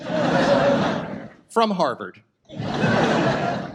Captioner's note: audience laughs